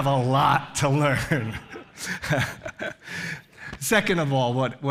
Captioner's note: laughs